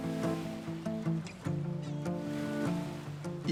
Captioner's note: gentle music; waves lap